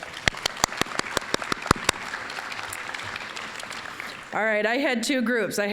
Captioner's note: applause